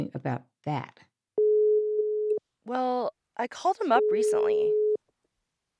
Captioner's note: sound of phone ringing